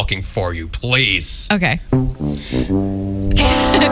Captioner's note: fail horn plays; giggles